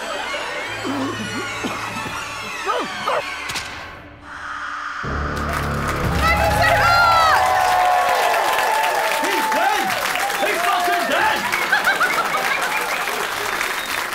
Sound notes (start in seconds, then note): 0.7 spluttering; 3.3 cracking; 5.3 applause